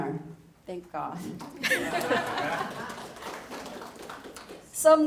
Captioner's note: laughter